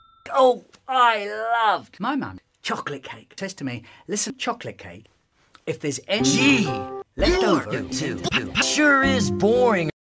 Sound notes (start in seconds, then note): none